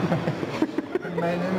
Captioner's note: laughter